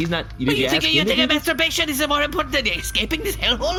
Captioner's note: annoyed sputtering